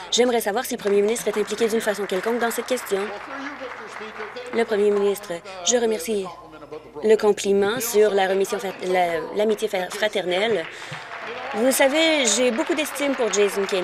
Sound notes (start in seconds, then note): 3.2 applause